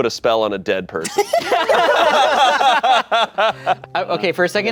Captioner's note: everyone laughing